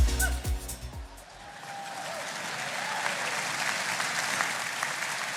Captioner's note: laughs; audience clapping